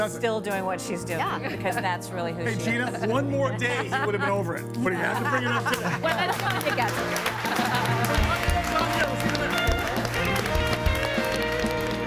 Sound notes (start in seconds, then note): 5.7 everyone applauding; 6.9 mellow soft rock music